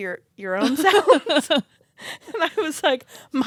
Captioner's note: laughs